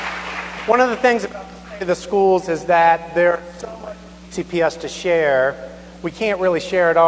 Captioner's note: applause